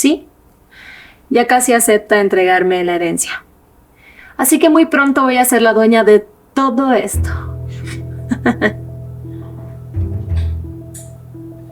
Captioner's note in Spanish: risas